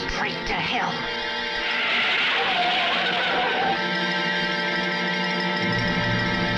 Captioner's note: tires screeching